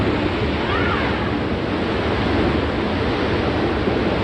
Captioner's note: people chattering; people yelling; water roaring